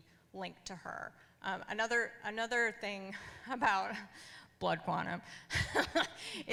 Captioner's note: laughs